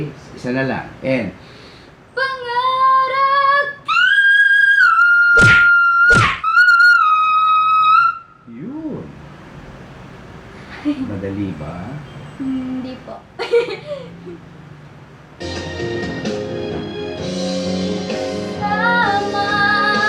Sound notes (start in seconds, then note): 13.4 laughing